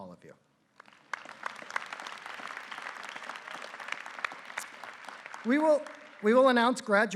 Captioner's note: applause